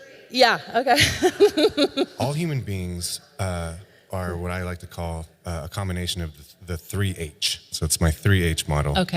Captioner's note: audio recording plays